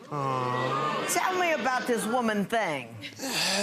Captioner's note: audience boo's and groans